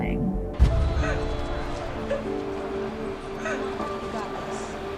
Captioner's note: sobbing